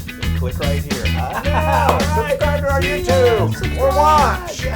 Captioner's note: laugh